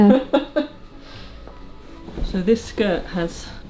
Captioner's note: laughing